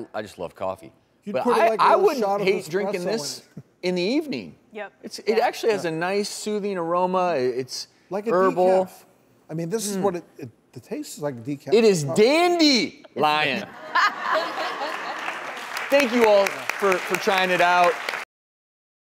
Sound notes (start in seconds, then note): 13.7 audience laughing